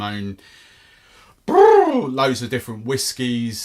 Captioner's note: lips blow